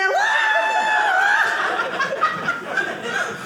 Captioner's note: audience laughing